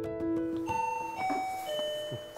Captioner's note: doorbell